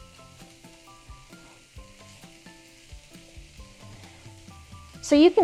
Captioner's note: cauliflower rice sizzles